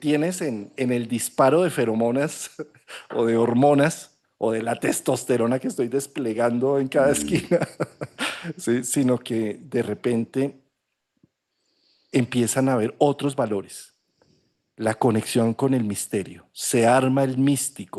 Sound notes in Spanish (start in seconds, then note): 7.0 risas; 11.3 resoplido